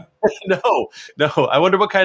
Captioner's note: laughs